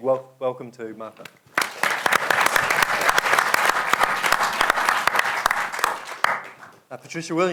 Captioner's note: applause